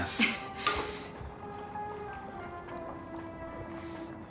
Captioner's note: chuckles